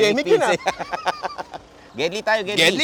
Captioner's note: laughs